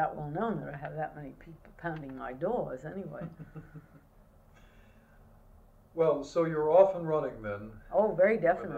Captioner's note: laughter